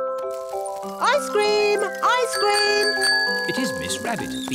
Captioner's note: rings bell